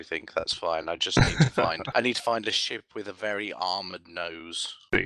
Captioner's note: laughs